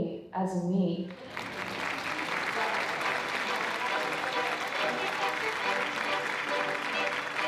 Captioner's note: audience claps; upbeat music